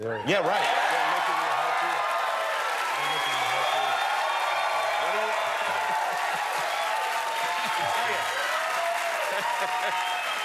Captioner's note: cheers and applause